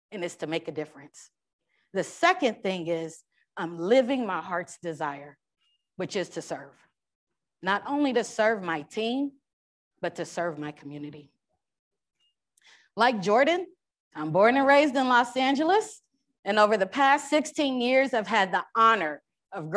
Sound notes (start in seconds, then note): none